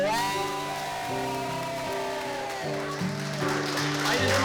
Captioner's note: crowd screaming